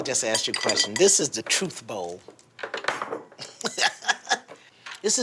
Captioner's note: laughs